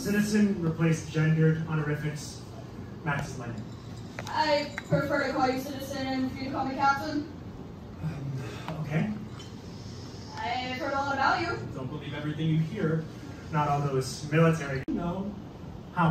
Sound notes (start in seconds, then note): 8.0 sigh